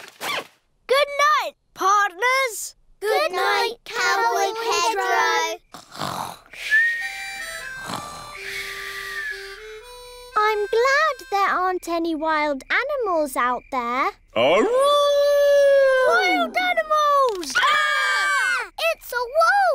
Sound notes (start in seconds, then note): 5.1 all snoring; 14.5 howling; 17.4 all screaming